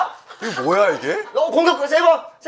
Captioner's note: mocking